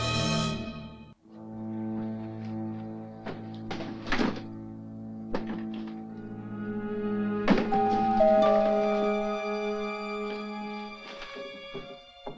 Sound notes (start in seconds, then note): 7.7 doorbell ringing